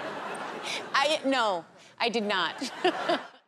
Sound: laughter; laughter

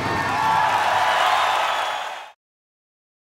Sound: audience cheering

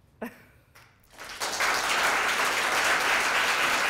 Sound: applause

